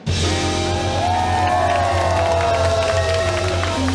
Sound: clapping

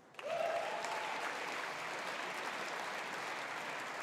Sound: audience applauding

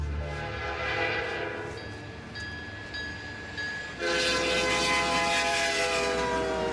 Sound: train signal sounding; train horn blowing

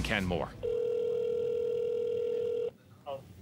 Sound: phone ringing

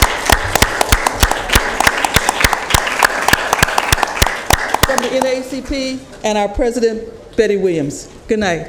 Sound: applause

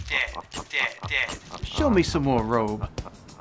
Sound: laughing

